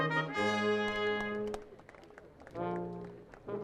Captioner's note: audience applauding; upbeat processional music